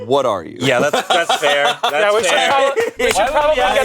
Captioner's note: laughs